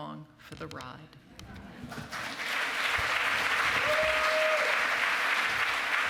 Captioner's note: cheering